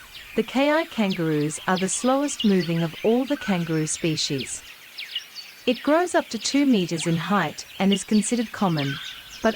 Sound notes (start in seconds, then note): 4.5 birds' chirping sounds